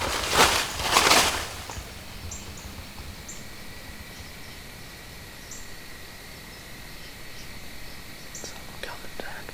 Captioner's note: shuffling noises/more grunts/leaves being raked with foot; insects / birds